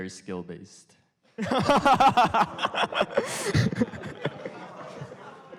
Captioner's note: laughter